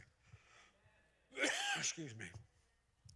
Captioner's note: coughs